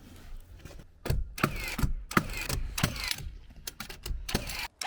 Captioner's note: nail gun clicking